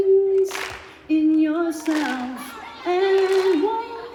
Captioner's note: rhythmic clapping